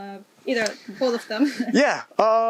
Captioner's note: laughs